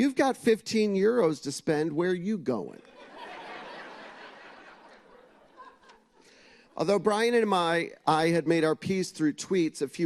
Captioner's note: laughter